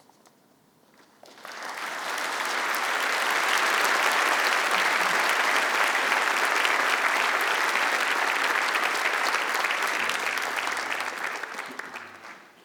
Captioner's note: applause